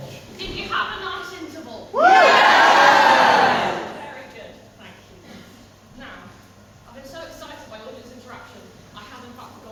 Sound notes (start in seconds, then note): 1.9 audience cheer and shout "YEAH"